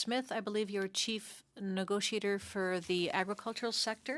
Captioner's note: speaking French